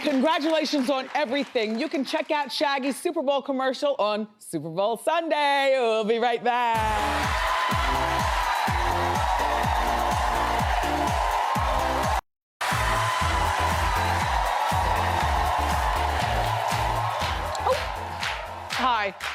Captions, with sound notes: You can check out Shaggy's Super Bowl commercial on Super Bowl Sunday. We'll be right back. (upbeat music) (audience cheers) (upbeat music) (audience cheers) Hi, welcome back.